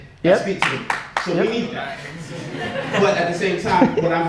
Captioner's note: audience applause and laughter